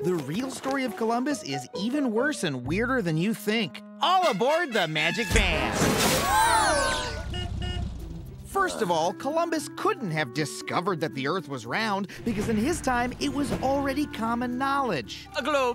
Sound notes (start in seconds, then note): 6.7 horn honks